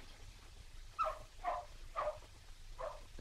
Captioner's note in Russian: лай собаки